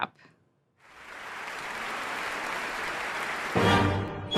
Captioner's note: applause; classical music